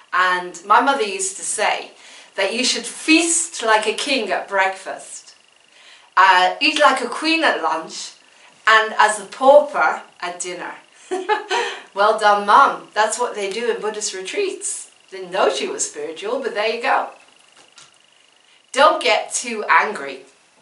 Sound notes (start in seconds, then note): 11.0 laughs